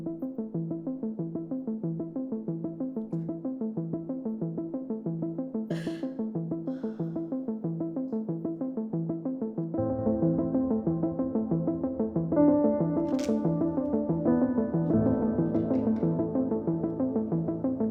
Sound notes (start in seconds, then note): 6.6 June sniffles; 10.0 suspenseful music